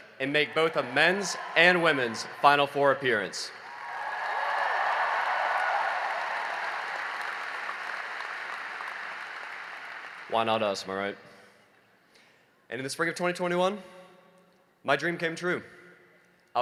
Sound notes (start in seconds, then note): 3.2 cheering and applause